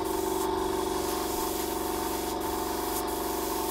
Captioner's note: constant compressor humming